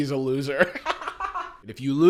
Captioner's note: laughs